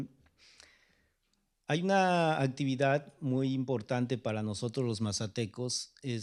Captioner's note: speaking spanish